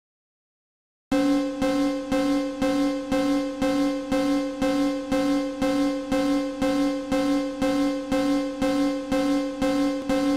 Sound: alarm sound

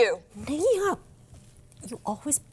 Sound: speaks cantonese

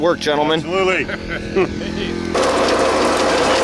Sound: laughing; machine whirring

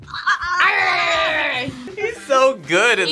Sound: Izzy growls

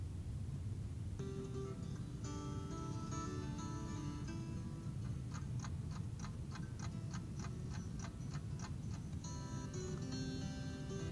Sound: clock ticking; background music

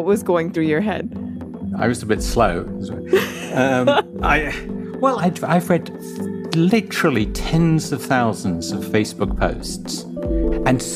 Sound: laughs

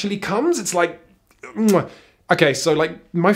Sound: lip smack

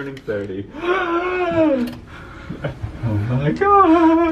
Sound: gasps

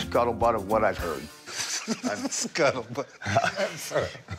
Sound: laughing

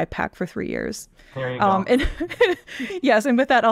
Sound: chuckles

